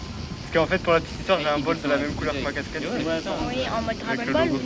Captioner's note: indistinct chatter